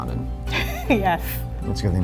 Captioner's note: laughs